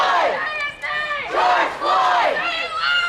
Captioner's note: crowd